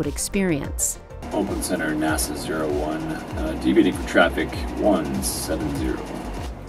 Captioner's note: traffic management radio